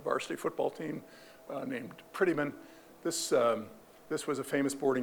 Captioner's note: none